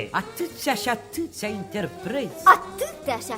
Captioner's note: none